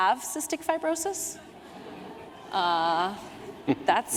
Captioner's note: laughter